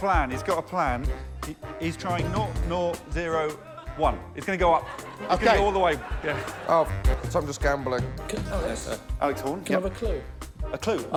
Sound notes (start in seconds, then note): 4.6 laughter